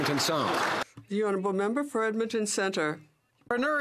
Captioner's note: some Applause